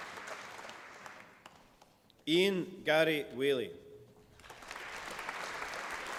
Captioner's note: applause